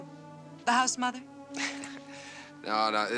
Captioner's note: laughs